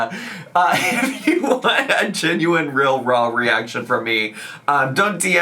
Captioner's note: laughs